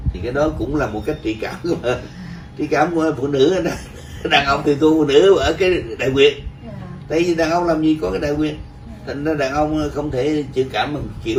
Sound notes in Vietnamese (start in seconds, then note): 6.7 cười